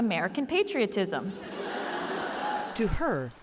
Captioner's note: laughter